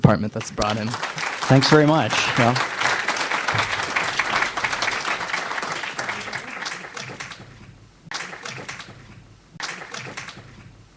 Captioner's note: audience applauds